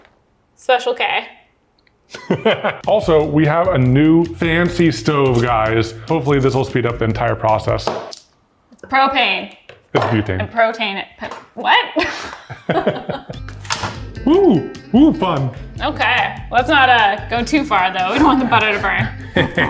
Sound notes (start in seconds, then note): 2.1 laughs; 11.9 both laugh